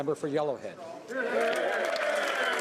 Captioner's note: speaking French